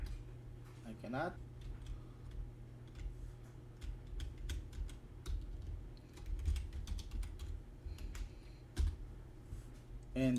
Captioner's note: typing; typing